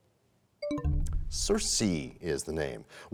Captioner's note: bell chimes, time expires